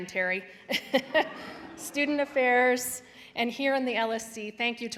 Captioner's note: laughs